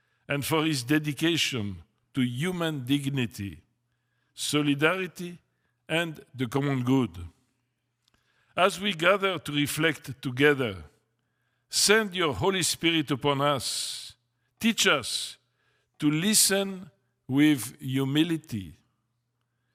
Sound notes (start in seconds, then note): none